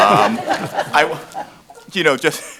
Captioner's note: laughing